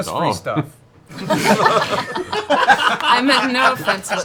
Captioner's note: laughter